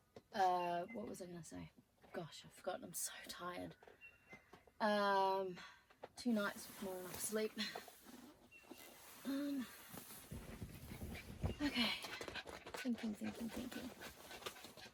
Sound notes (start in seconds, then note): 11.8 dog pants loudly